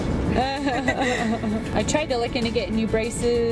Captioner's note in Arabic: وكلاهما يضحك